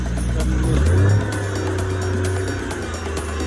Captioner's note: engine revving